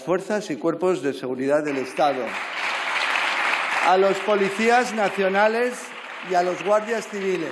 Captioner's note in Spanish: aplausos